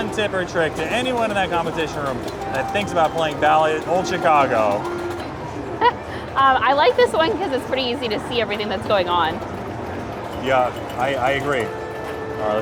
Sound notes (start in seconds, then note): 5.7 chuckles